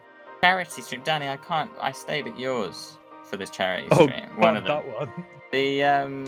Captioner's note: laughing